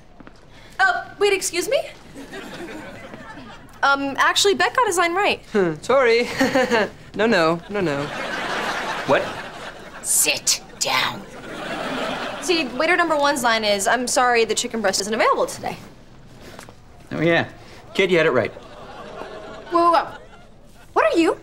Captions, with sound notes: Uh, wait. Excuse me. Um, actually, Beck got his line right. Tori. [chuckles] No, no. No, no. What? Sit down. See, waiter number one's line is "I'm sorry, the chicken breast isn't available today." Oh, yeah. Kid, you had it right. Whoa, whoa. What are you?